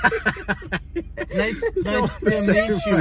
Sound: laugh

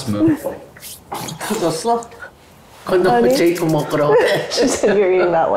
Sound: speaking Korean

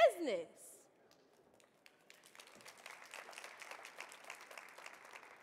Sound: audience clapping

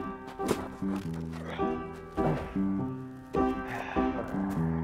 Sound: shoveling and grunting

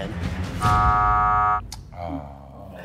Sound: buzzer sounds

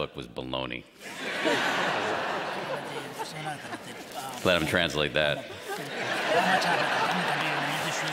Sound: laughter

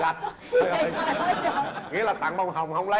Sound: laughters

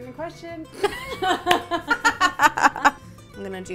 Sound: laughing

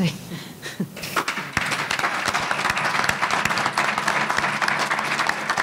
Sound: audience applauding

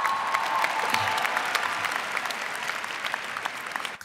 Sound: cheers and applause

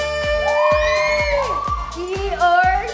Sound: girls cheer

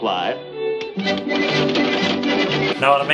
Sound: calculators clicking

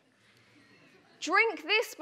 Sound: audience laughs

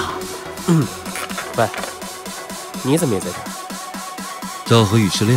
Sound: clears throat

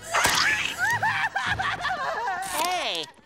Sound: crying

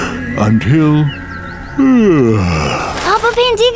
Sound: yawning

